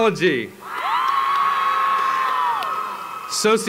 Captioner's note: applause